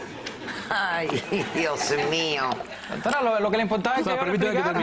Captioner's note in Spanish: risas